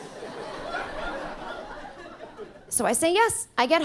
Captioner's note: audience laughing